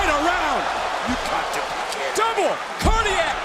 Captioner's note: crowd cheers